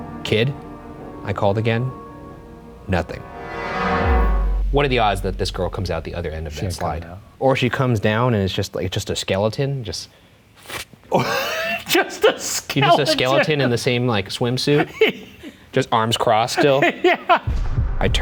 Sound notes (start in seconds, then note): 12.7 laughing; 16.4 laughing